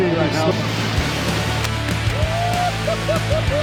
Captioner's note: sharks slaps